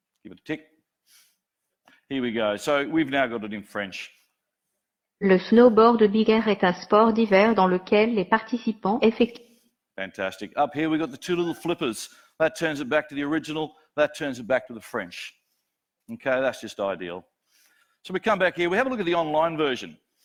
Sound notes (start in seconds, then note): 5.4 computer speaks in foreign language